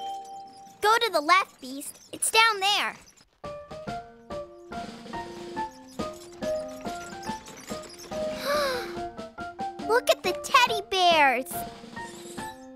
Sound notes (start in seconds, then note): 8.4 gasp